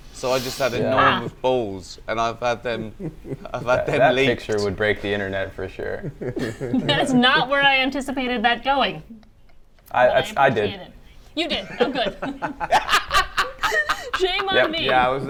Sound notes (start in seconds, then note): 6.4 comedians laugh; 11.4 comedians laugh